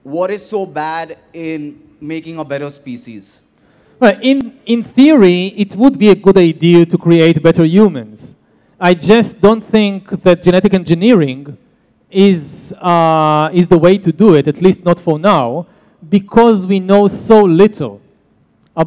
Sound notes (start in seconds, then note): none